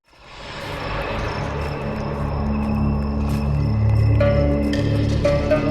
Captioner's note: crickets chirping